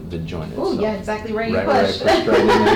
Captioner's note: laughs